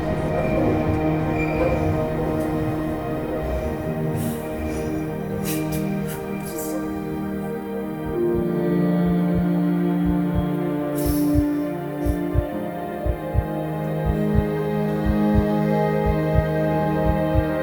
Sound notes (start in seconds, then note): 10.2 heart thumping